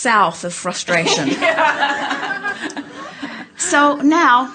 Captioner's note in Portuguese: Alguns risos